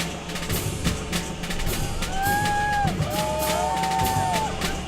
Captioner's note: drumming music; cheering